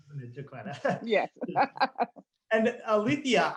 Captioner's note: laughing